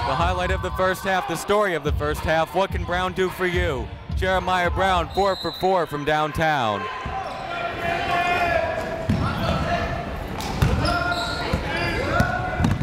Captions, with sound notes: The highlight of the first half, the story of the first half, what can Brown do for you? Jeremiah Brown four for four from downtown. (chatter)